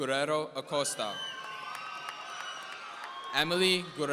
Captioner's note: audience cheering